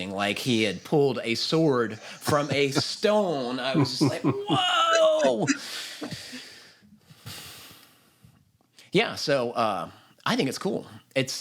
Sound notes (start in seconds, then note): 4.8 laughter